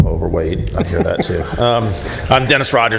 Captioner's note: laughter